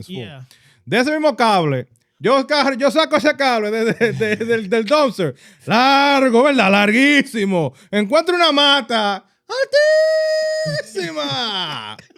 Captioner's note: speaking In Foreign Language